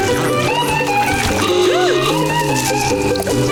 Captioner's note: gasping